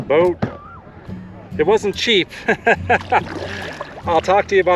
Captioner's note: laughter